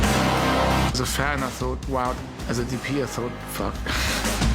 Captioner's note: chuckles